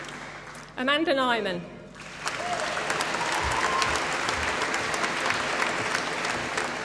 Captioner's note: applause